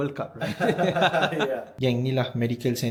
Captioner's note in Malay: ketawa